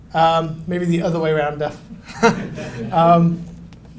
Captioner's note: laughs